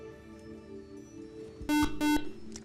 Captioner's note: beeping